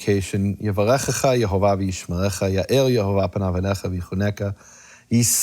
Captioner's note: speaking in foreign language